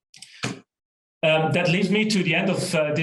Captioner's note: keyboard keystrokes